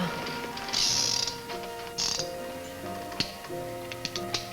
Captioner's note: gun clicks